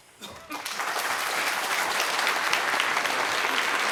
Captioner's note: applause